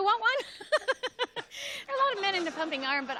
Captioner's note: laughs